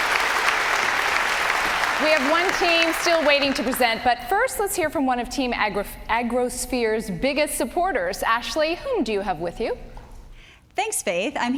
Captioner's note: applause